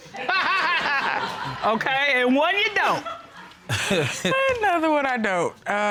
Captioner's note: laughs; chuckles